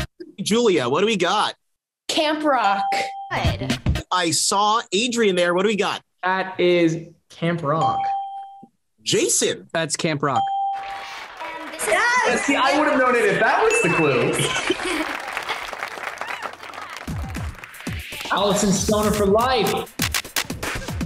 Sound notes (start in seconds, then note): 2.8 bell rings; 7.8 bell rings; 10.4 bell rings; 20.8 upbeat music